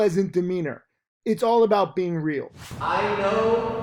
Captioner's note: air whooshes